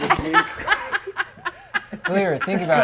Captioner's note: laughs